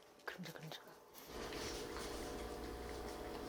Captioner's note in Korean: 쩝쩝쩝